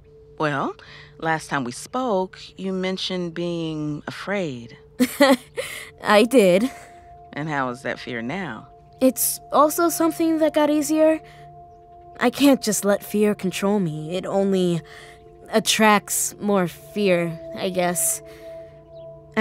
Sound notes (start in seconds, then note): 5.0 chuckling